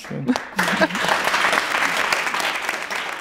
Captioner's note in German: Applaus